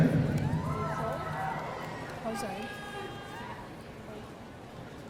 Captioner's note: audience cheering